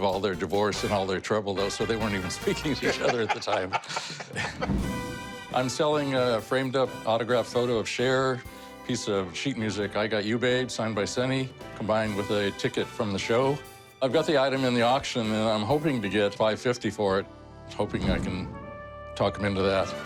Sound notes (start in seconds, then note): 2.7 laughing